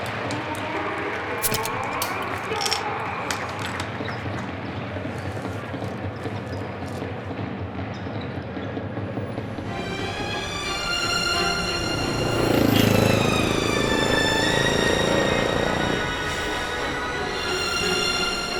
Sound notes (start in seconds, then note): 3.6 audience cheering; 10.7 dramatic upbeat music